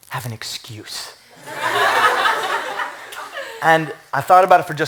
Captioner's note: laughter